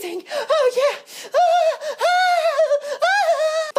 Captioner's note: moans